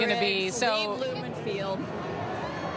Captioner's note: laughter